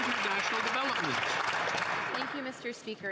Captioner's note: some Applause